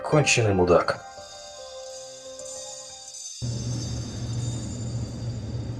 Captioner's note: glass clinking; elevator sound